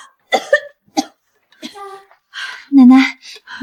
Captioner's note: cough cough